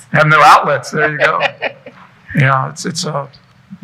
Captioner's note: laughing